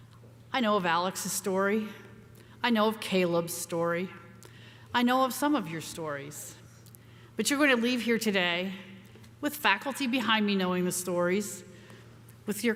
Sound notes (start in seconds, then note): none